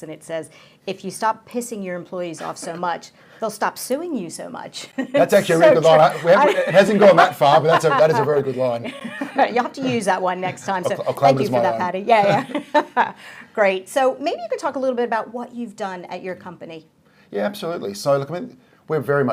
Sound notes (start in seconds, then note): 5.0 laughs